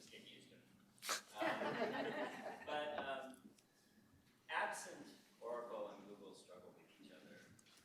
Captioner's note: laughter